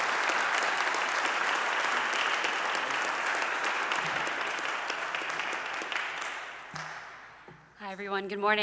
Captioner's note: audience clapping